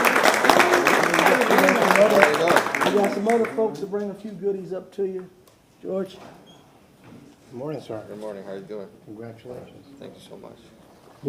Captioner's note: applause